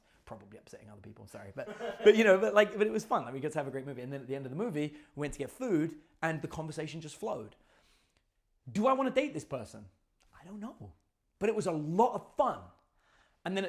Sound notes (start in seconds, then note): 1.6 students laugh